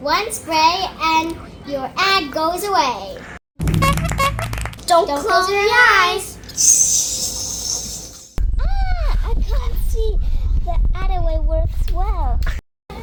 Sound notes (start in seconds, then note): 3.8 clapping